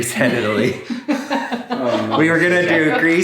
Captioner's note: laughing